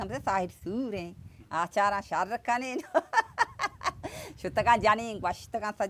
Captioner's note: chuckles